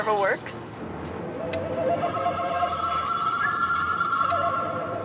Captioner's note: eerie whirring